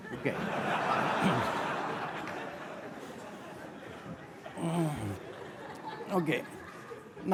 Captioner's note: audience laughter